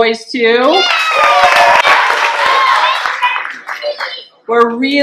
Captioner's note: clapping and cheering